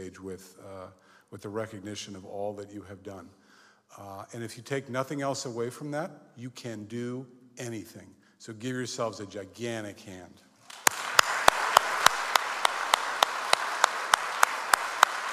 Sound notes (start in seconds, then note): 10.6 audience applauds